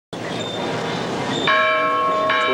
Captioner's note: bell chimes